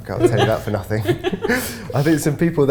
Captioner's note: everyone laughs